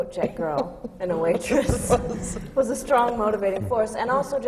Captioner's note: laughs